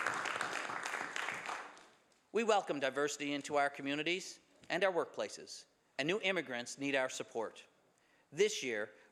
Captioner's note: some Applause